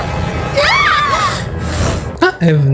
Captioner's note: screams